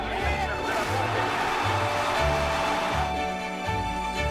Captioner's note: cheering